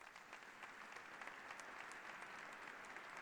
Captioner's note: applause